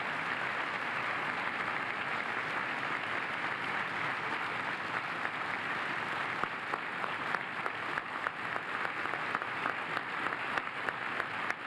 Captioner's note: applause